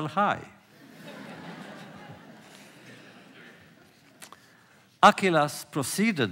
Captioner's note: laughter